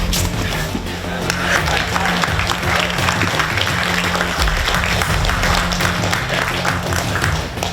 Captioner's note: breathes heavily; audience clapping